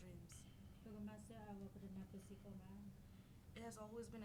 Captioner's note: speaking in foreign language